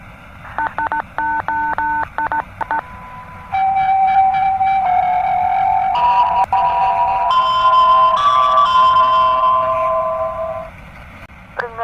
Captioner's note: eas alarm